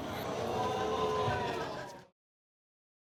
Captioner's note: crowd exclaiming